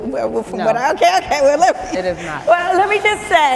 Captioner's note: laughing